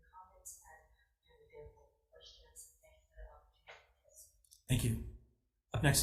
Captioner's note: faintly speaking